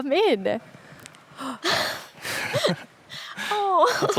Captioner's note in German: keuchen, lachen